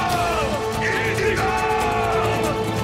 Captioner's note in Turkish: Hep bir ağızdan